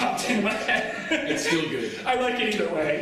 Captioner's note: laughter